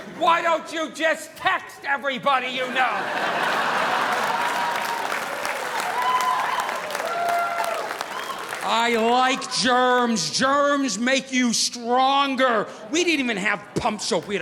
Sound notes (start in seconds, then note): 2.4 audience laughing; 2.7 audience applauding